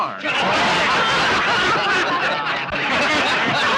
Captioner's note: all laughing